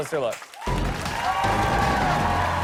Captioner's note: cheers and applause